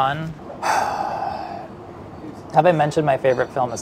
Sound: sighs

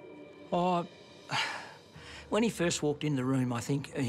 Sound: sighs

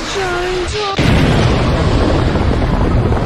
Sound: explosion

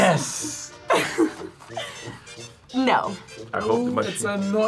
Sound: laughs

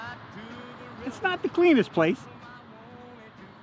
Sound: voice-over

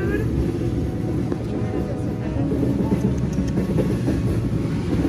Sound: tongue clicks

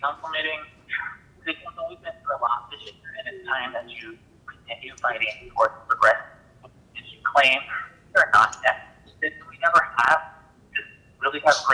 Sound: ~audio distortion~

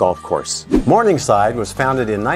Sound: note swooshes

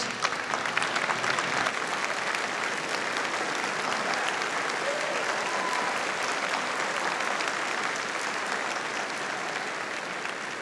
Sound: applauding

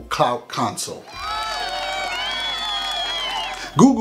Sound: cheers

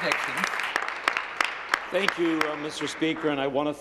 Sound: applause

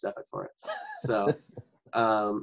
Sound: laughs

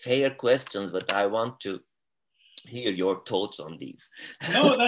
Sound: laughs

